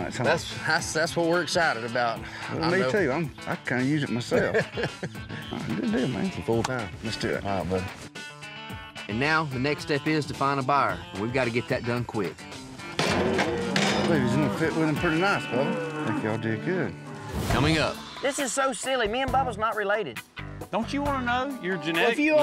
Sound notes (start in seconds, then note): 4.2 both laugh; 13.3 mooing